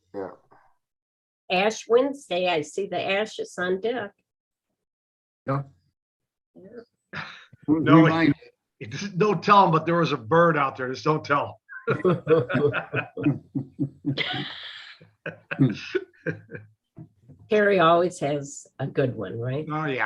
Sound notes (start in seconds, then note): 11.8 laughing